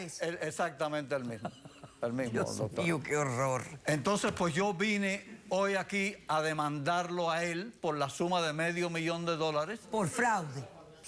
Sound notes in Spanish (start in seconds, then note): 1.2 Risas